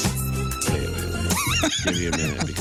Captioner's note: laughing